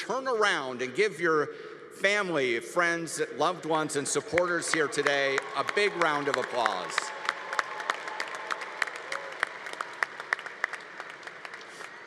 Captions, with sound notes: turn around and give your family, friends, loved ones, and supporters here today a big round of applause. (congregation applauding)